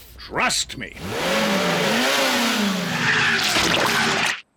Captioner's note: revs engine